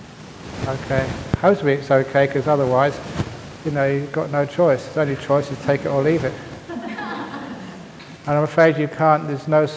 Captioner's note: laughter